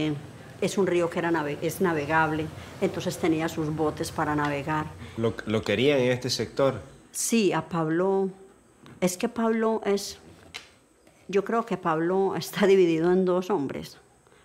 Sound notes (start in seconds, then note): 5.3 speaking in foreign language